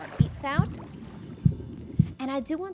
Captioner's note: heartbeat